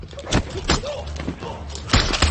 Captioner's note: tense music continues; person groaning; gun shots firing